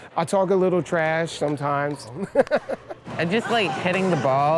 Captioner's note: laughs